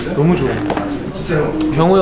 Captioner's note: sniff sniff